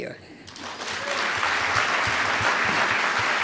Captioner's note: applause